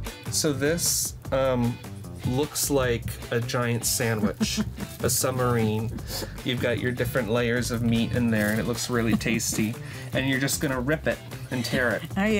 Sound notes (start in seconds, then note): 0.0 upbeat playful music; 4.0 laughs